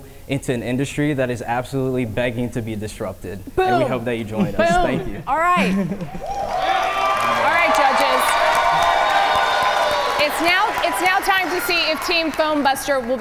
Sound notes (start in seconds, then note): 6.0 audience cheer